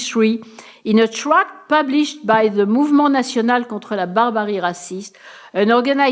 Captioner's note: speaking french